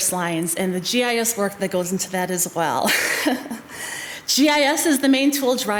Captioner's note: chuckles